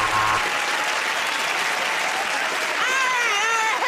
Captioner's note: buzzer; cheering, whistling, and applause